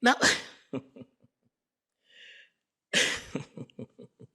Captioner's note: giggling